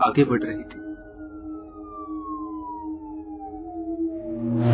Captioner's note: police siren